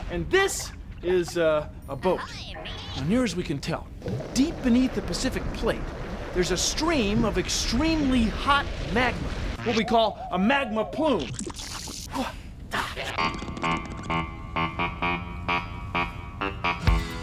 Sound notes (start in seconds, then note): 11.6 sizzle; 13.6 mid-tempo music plays